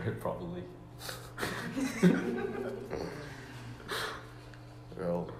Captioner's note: Смех